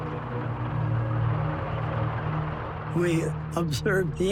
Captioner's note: tanks rumbling